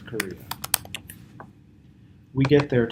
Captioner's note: typing